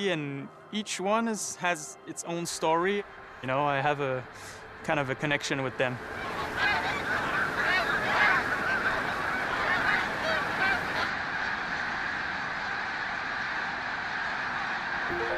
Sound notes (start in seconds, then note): 6.1 squawking